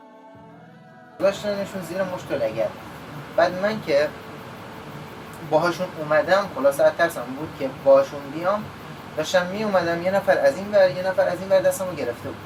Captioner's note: foreign language